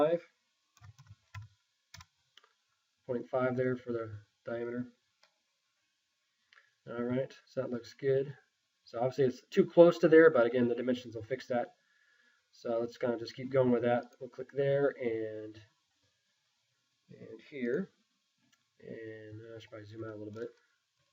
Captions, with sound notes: (mouse clicking) Point five there for the diameter. All right, so that looks good. So obviously it's too close to there but again the dimensions will fix that. Let's just keep going with that. One click there, and here. And I should probably zoom out a little bit.